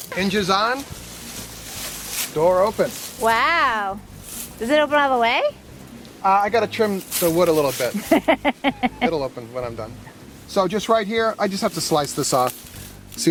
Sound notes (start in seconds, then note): 7.9 laughing